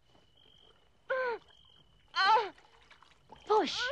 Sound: gasping

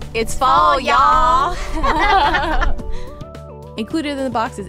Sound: both laugh

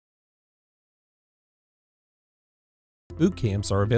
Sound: silence

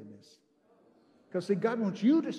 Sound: congregation amens

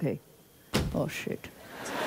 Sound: bag thumps

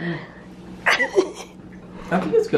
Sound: laughs

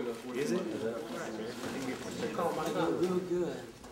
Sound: chattering

